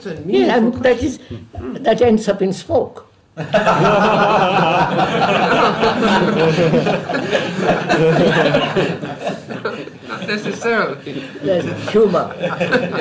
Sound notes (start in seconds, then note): 5.2 laughter; 6.6 laughs